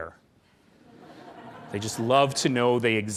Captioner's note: laughing